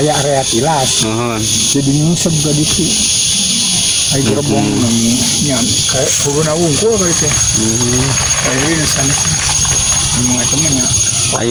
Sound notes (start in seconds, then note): 1.3 locomotive; 7.2 chains